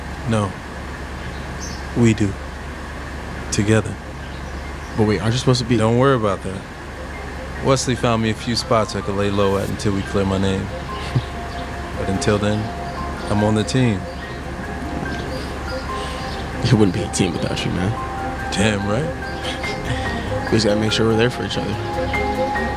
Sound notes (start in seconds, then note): 19.3 Michael chuckles